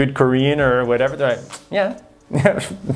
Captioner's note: lips smacking